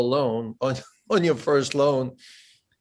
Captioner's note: laughs